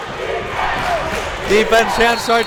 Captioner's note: crowd chanting defense